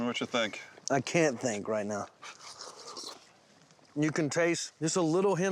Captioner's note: slurping